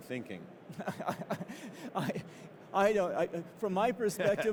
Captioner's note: laughs